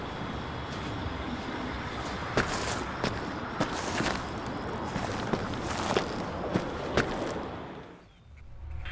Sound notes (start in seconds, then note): 2.5 footsteps in gravel